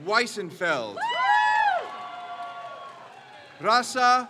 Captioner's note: crowd cheers